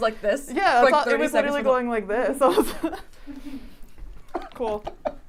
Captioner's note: chuckles